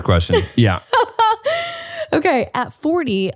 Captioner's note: laughs